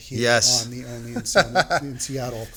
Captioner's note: chuckles